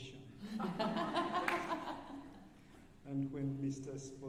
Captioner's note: alumni laughing